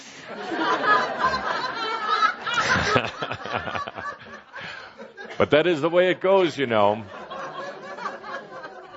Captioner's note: laughter from audience and Kuthumi